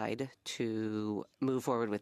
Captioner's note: speaking French